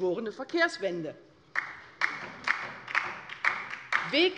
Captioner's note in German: Beifall bei der LINKEN